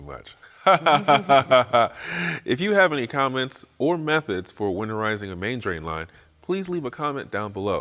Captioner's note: fake Laughing